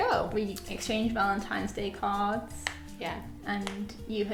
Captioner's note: knuckles popping